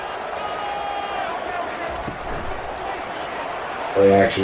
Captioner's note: crowd Noises